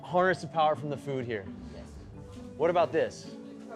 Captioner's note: none